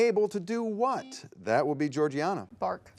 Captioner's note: buzzer beeps